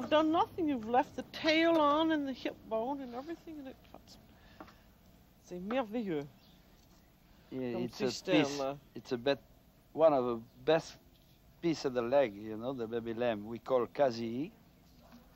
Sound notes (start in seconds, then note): 3.6 speaking French; 13.3 speaking French